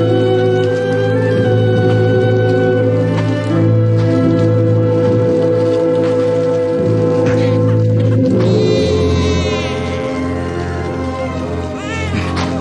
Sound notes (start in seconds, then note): 7.1 baby crying